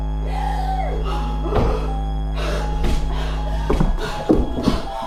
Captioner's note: Leona gasps and pants